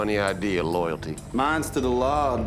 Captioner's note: laughing